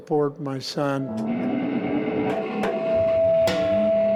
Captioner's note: feedback